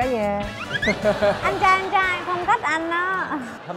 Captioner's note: laughing